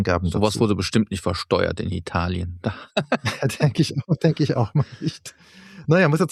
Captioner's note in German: gelächter